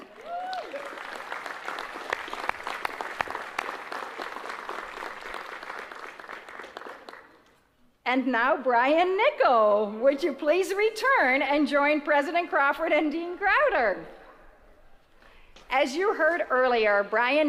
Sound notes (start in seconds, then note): 6.0 applause